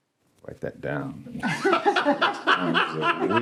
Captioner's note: all laughing